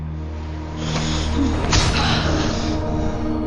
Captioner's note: Stabbing, Debra gasping